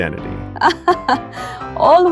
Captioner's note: laughs